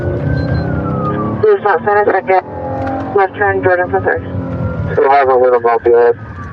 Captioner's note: radio ctter